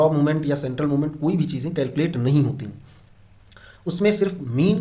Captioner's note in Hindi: नाक से की जाने वाली आवाज़